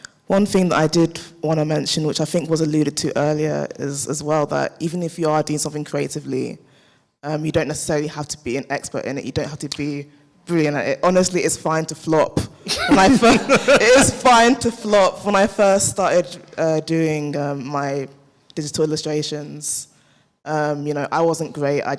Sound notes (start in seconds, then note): 12.7 all laugh